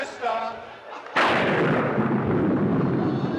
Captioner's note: thunder crashes